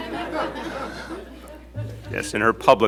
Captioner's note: laughter